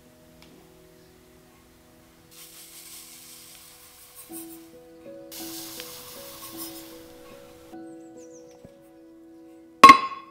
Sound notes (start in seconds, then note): 2.7 grits sprinkle into pan